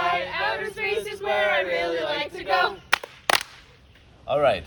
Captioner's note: clap, clap